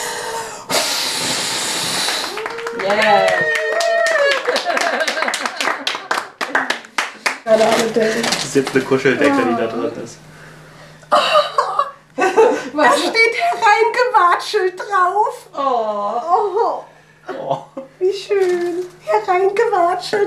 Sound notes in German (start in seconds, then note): 2.4 Jubel, Lachen; 11.1 Lachen